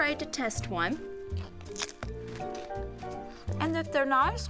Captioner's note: crunching